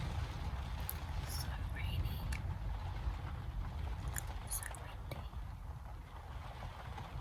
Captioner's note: whispering